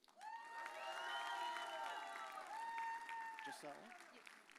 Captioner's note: audience cheers